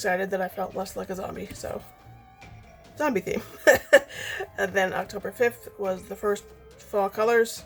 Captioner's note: laughs